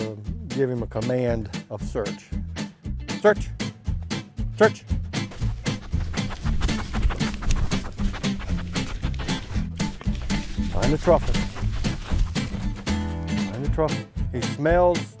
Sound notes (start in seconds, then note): 5.0 footsteps rustling; 5.2 Aki eager sniffing